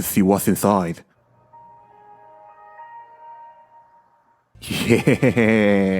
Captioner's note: Windows XP startup sound